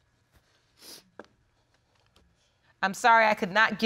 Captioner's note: sobs and sniffles